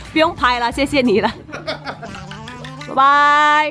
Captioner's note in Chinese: 有錢人笑聲